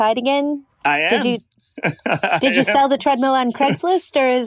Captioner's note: laughs